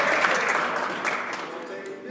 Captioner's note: some Applause